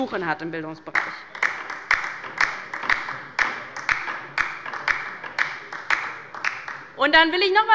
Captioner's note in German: Beifall bei der LINKEN